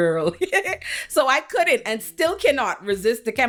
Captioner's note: laughs